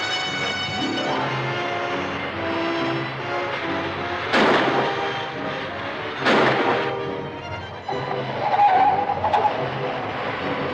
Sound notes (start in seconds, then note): 4.3 gun firing; 7.6 tires screeching